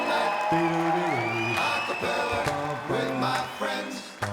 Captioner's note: audience cheers